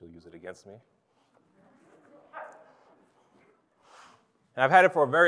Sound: congregation laughs

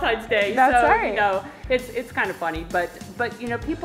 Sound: laughs

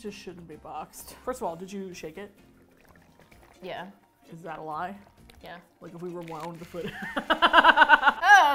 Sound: laughs

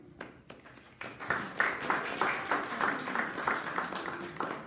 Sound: audience applauding

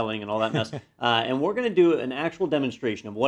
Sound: laugh

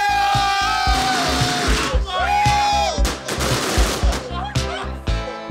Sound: fireworks cracking

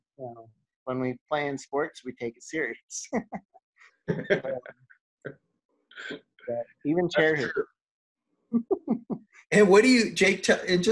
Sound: laughs

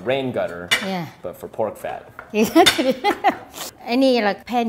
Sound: laughs

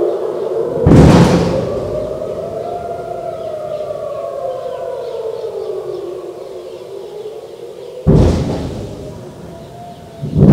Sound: noises of missile interceptions

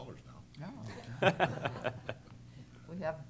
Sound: laughter

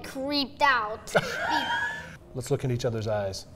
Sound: laughs

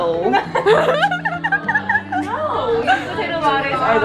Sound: laughter

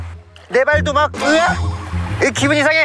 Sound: splaat

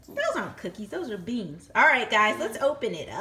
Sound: voiceover

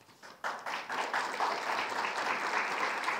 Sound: applause

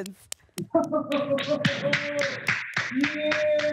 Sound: applause and cheering

